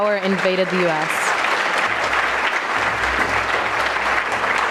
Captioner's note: audience clapping